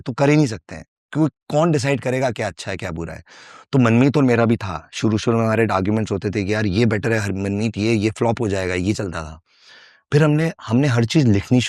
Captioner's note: non-english speech